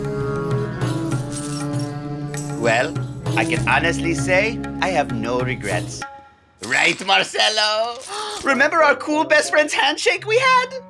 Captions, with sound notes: [coins jingling] -Well. I can honestly say I have no regrets... Right, Marcelo?? [gasp] Remember our cool best friends handshake we had?